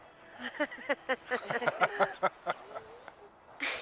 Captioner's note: all laughing